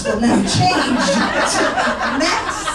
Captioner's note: audience laughing